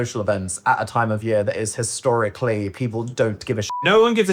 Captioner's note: beep